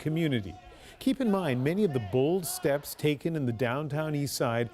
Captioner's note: chants